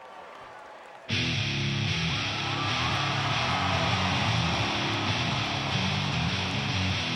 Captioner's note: crowd cheering